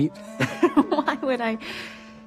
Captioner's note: laughs